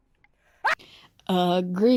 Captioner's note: screams